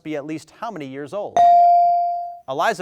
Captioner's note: bell dings